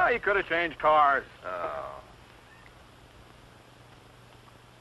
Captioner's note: groans